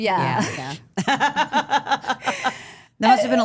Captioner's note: interviewer laughing